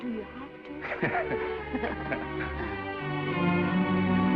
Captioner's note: Esther laughs; Norman laughs; gentle music